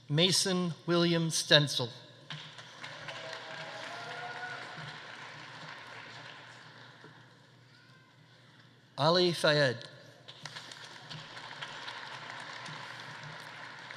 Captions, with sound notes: Mason William Stencel. (audience applauding) (audience cheering) Ali Fayed. (audience applauding)